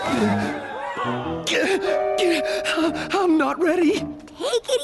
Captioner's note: gasp